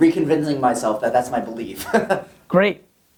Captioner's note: laughs